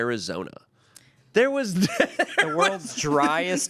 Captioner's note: laughs